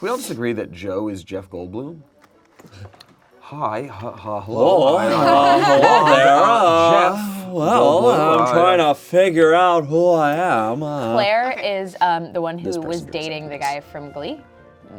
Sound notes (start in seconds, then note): 3.6 imitating Jeff Goldblum